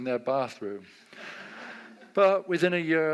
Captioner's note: audience laughs